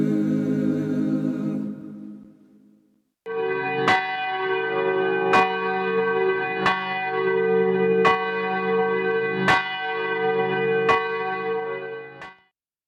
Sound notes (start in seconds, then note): 3.7 bell chiming